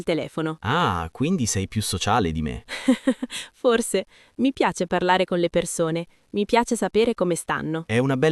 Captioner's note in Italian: risate